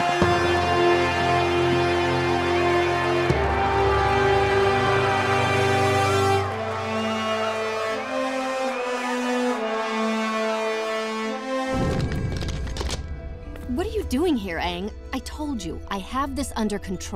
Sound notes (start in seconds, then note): 0.0 cheering